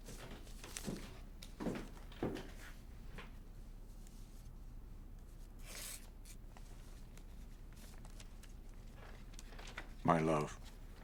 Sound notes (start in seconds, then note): none